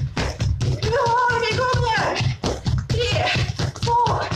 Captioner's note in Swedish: Ljudet av stampande fötter överröstar